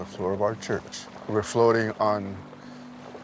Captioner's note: speaks foreign language